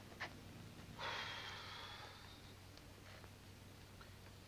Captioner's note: none